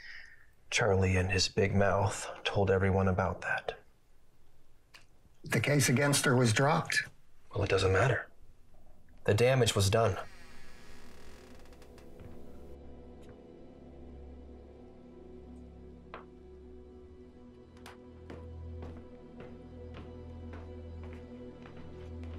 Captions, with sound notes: Charlie and his big mouth told everyone about that. - The case against her was dropped. - Well it doesn't matter. The damage was done. (door creaks) (soft suspenseful music)